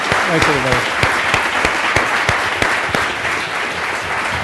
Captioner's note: applause